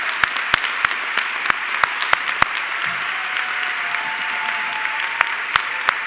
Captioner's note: audience clapping continues